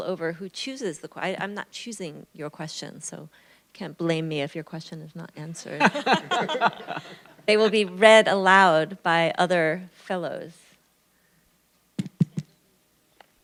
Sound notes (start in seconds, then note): 5.8 laughter